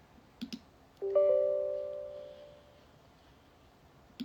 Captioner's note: computer dings